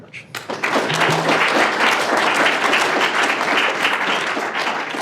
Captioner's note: audience applauding